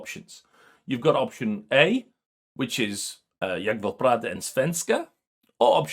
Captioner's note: speaking swedish